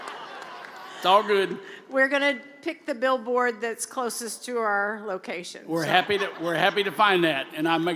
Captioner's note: laughter